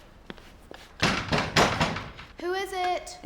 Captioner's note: knocking